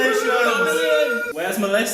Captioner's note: cheering continues